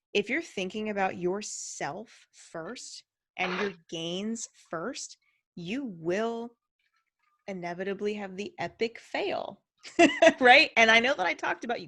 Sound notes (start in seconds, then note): 3.6 water jug lid twists open; 10.2 chuckles